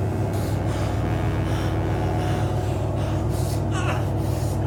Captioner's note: Phil panting